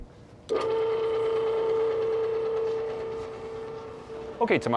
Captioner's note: machine running